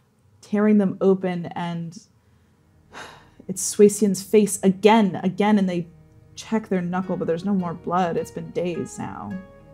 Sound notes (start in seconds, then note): 2.2 exhaling